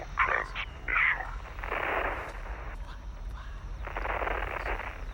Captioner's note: static pops